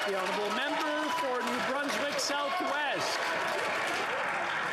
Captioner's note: applause